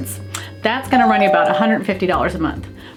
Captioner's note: door bell rings